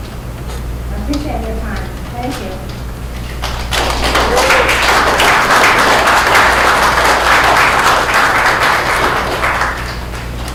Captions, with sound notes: I appreciate your time. Thank you. (audience applauds)